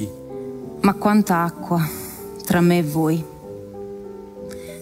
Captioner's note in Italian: voce di donna fuori campo